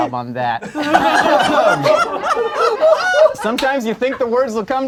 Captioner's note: group laughs